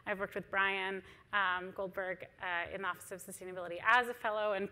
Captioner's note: none